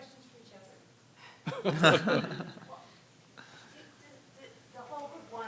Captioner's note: everyone chuckling